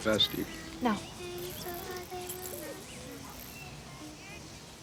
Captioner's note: children chattering; birds chirping